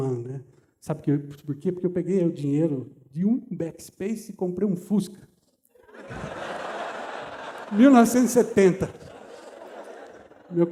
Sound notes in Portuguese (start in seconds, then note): 5.8 risos